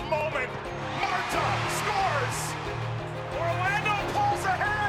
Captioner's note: crowd roaring